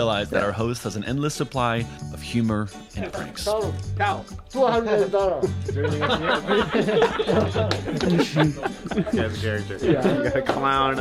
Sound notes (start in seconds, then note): 6.9 all laughing